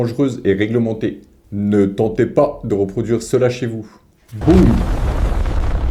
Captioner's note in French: explosion